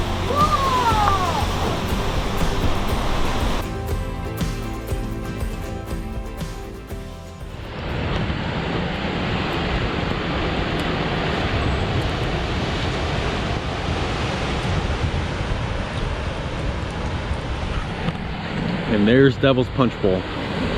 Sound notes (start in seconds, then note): 8.0 waves crashing